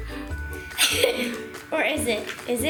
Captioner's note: laughter